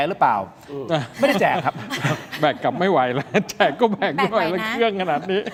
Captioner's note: laughs